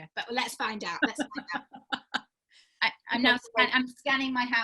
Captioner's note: laughing